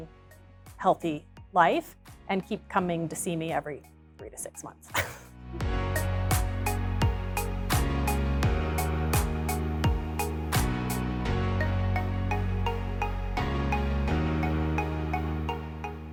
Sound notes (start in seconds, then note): 4.9 chuckles; 5.5 upbeat music